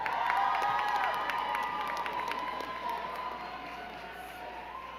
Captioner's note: crowd cheering and clapping